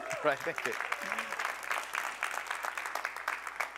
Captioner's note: applause